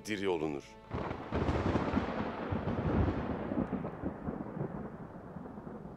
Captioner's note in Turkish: Gök gürültüsü efekti